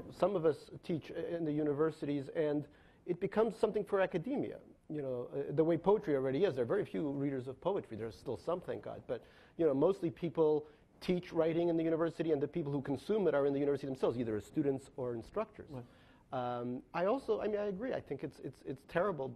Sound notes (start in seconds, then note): none